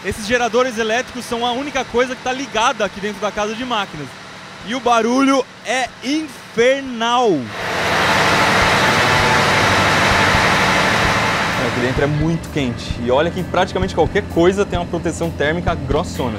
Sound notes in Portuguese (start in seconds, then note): 7.0 Barulho de geradores